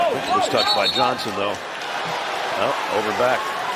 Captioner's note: whistle